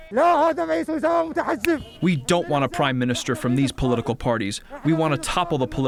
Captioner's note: through translator